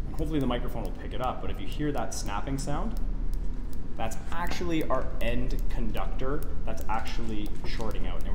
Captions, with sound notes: and hopefully the microphone will pick it up. But if you hear that snapping sound, (meter snapping) that's actually our end conductor that's actually shorting out,